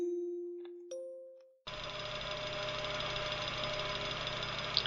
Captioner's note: rattling metal fans